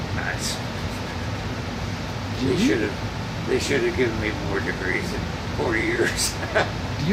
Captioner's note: laughs